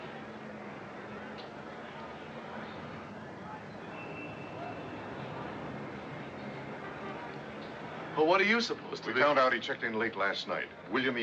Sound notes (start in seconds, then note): none